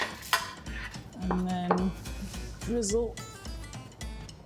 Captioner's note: plate thuds; turner clatters